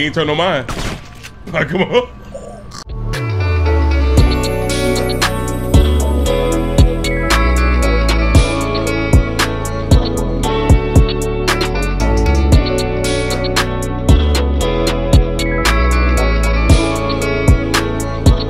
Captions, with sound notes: - He ain't turned on mine. (gun fires) Come on. (smooth rhythmic music)